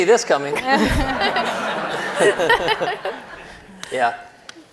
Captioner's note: audience laughing